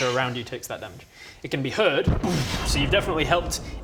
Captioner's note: booom!